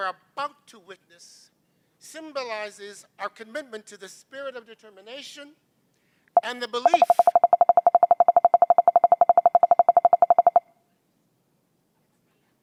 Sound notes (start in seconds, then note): 6.9 tapping